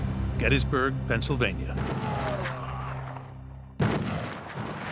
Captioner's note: gunshots